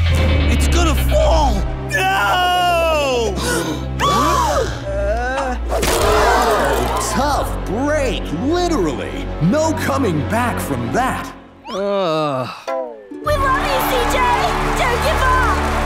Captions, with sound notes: It's gonna fall. No! [gasping] [groaning] [gasping] Tough break, literally. No coming back from that. [groaning] We love you CJ! Don't give up!